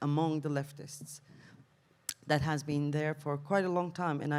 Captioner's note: none